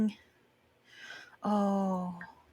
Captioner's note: breath in